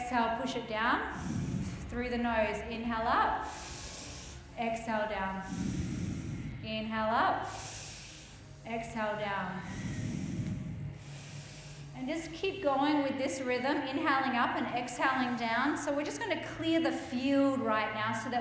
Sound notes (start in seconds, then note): 1.0 exhales; 5.2 inhales; 7.1 exhales; 9.3 inhales; 11.3 exhales; 12.3 inhales